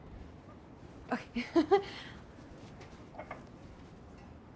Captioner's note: laughs